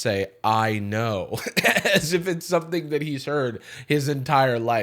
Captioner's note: laughs